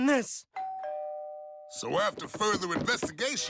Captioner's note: doorbell rings